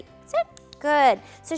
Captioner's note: clicker clicks